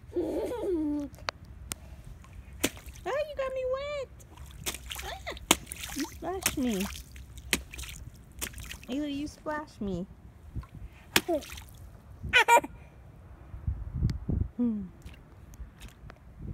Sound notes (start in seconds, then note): 0.2 mischievous laughter; 12.4 proud laughter; 14.6 loving sigh